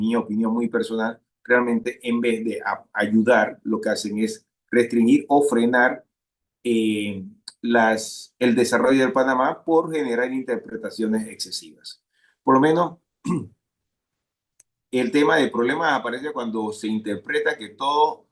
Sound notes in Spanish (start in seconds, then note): 13.2 carraspeo